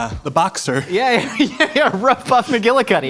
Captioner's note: laughs